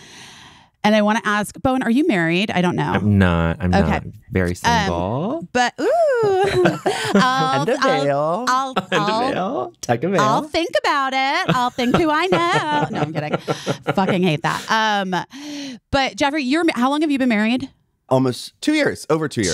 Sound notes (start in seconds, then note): 6.0 laughing; 11.4 bowen laughing